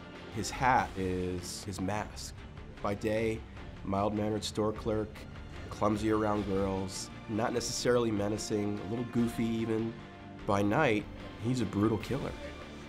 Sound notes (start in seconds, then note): none